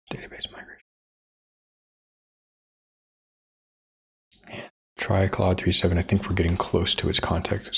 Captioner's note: blank Audio